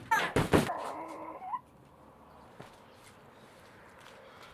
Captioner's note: grunting